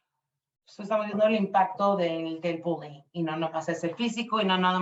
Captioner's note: speaking Spanish